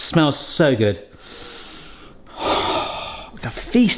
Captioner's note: sniffing